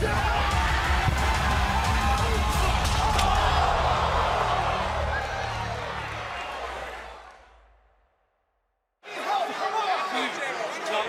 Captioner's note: crowd chatter